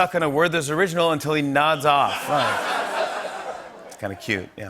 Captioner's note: laughter